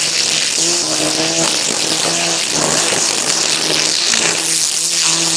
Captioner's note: aggressive trimming noises